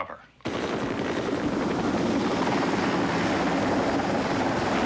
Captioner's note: helicopters whir